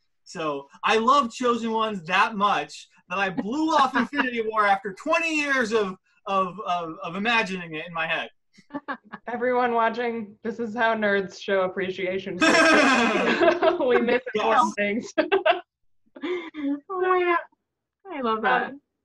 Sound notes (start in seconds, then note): 12.4 laughing; 16.0 speaking faintly